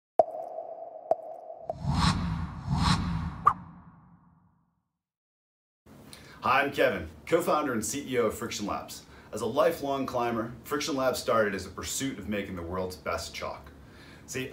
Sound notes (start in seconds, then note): 0.2 popping; 1.7 air whooshing